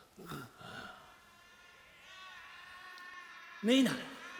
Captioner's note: background bedlam of the insane asylum